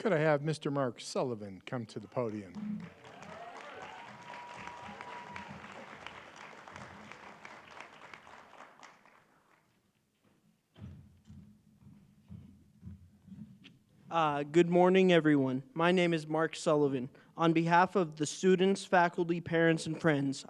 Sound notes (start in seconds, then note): 0.0 applause; 7.2 applause